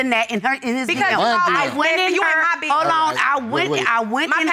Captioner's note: all arguing loudly